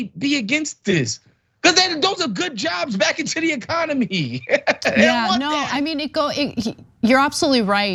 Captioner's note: laugh